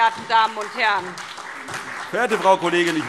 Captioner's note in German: Beifall SPD